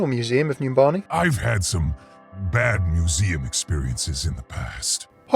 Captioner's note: voiceover